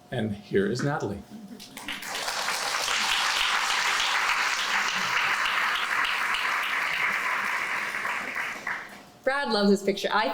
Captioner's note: applause